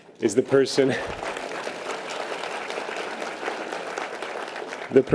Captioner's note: audience applause